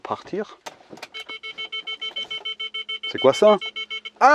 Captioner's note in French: Bip